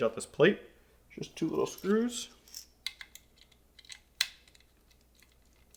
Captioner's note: screws clinking